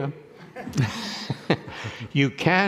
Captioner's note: people laughing